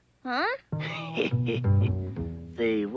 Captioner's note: laughing